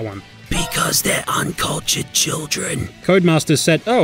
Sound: whispering

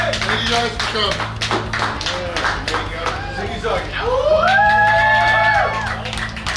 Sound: cheering and clapping

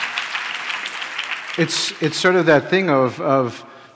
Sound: cheers and applause

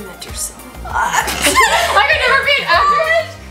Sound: laughs

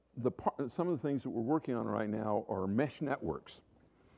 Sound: none

